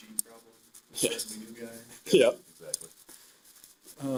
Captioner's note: laughing